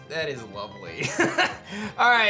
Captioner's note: chuckles